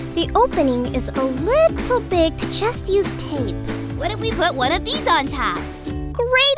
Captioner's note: none